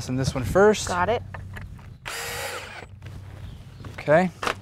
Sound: drill whirring, no additional audio

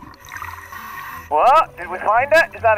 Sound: water bubbles bubbling; deep breathing

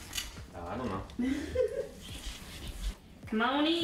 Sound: laughing

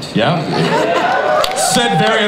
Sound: audience cheers

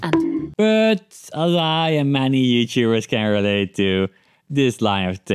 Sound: bonk

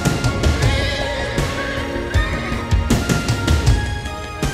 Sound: horse whinnying

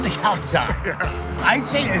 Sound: laughs

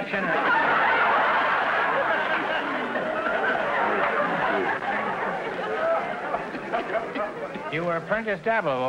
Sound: audience laughter

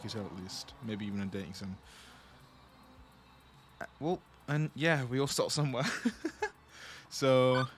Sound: laughs

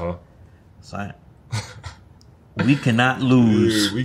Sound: RJ laughs

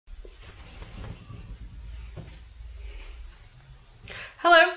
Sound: hair floofing noises

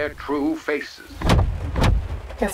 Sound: door lock thuds

